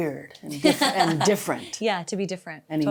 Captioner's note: laughing